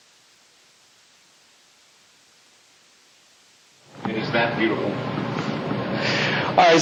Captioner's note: echo